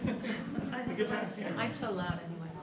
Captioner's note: audience chuckles